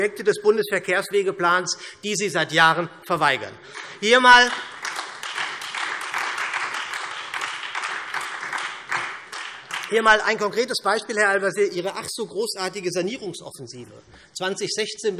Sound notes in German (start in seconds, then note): 3.7 Beifall SPD und Freie Demokraten